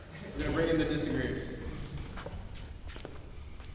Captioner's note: offscreen voice